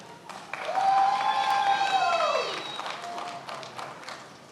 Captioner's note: many applauding